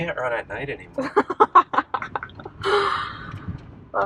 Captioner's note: laughs